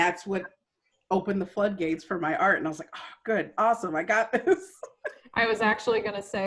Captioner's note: laughter